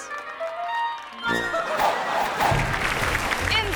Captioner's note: audience applause